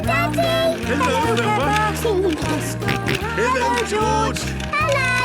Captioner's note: George giggling and snorting